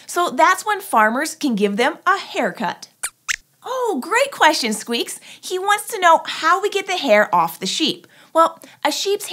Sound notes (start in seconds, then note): 3.0 squeaks squeaks